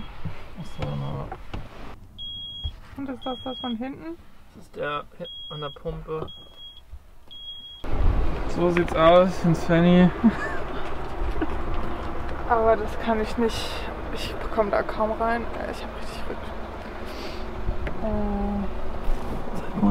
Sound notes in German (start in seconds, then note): 10.2 lacht